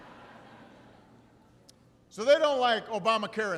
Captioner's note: laughter